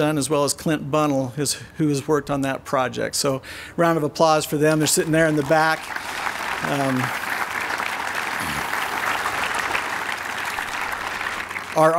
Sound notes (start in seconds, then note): 7.1 applause